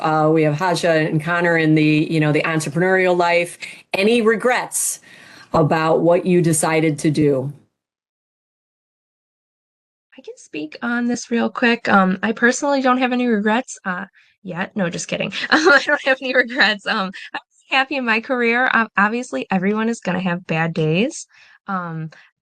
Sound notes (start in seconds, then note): 15.4 laughs